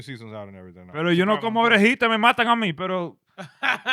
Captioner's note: speaking In Foreign Language